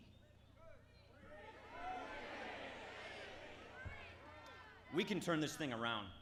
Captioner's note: crowd shouting